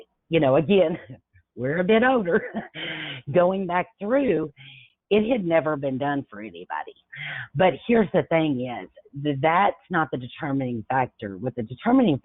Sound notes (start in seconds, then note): 2.2 chuckles